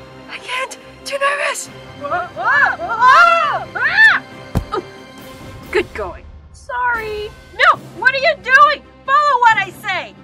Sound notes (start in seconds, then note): 2.9 screams